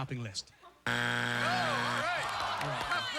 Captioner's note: buzzer